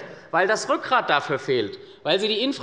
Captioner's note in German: none